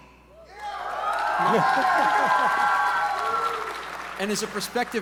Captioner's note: audience members cheering